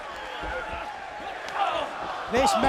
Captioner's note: fans chattering; fans chanting